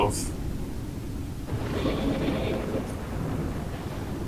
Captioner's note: thunder